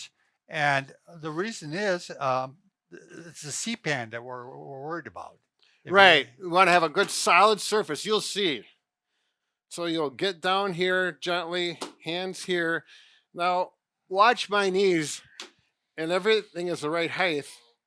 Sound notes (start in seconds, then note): 11.8 palm slams; 15.0 palm slams